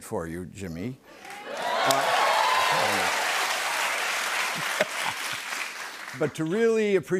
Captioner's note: cheers and applause